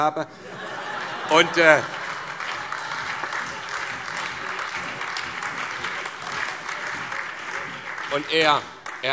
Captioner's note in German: Große Heiterkeit und Beifall